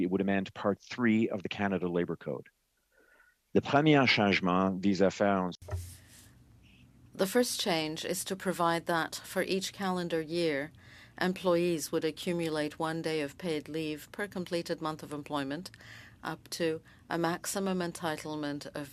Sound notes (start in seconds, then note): 10.9 speaking French